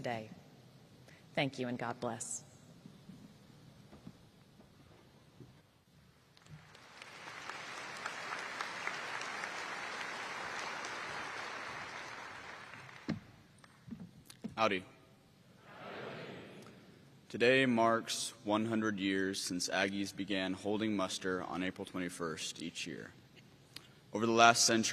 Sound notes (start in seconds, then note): 10.0 applause